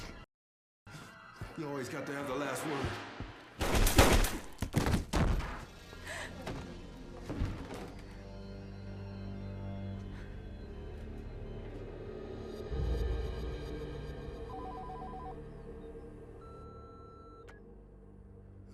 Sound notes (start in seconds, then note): 0.0 tense dramatic music; 3.6 gun firing; 6.2 Regina gasping; 14.5 phone ringing; 16.4 answering machine beeping